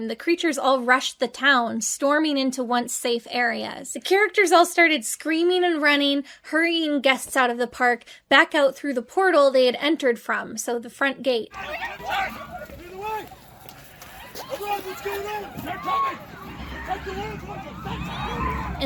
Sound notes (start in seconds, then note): 11.5 guests screaming